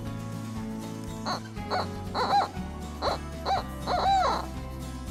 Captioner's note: turkey call yelps